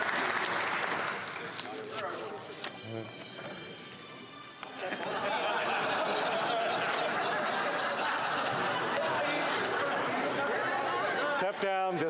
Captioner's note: some Applause